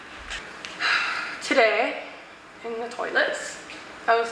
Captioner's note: sighs